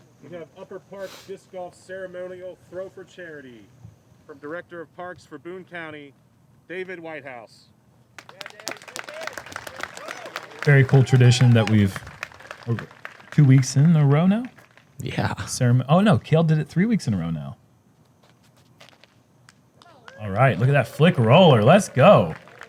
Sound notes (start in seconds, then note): 8.1 applause; 22.4 applause